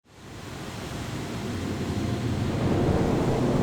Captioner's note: waves crashing